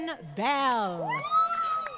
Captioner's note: crowd Cheering & Applause